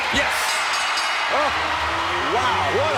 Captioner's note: bell rings